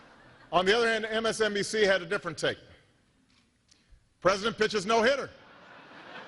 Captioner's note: laughter